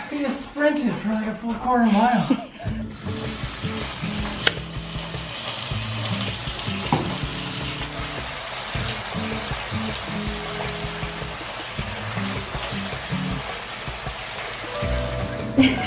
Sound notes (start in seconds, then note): 3.0 water splashing; 5.4 tranquil music